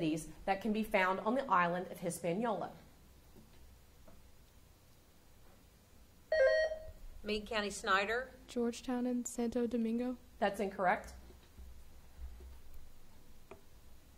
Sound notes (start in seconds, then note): 6.3 buzzer sounding